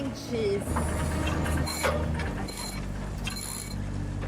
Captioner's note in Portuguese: Ruídos metálicos